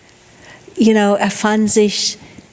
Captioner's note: speaking in foreign language